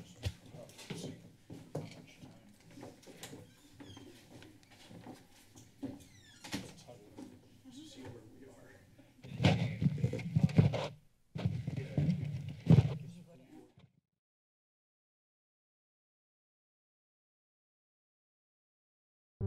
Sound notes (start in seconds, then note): 6.6 background chatter; 14.3 silence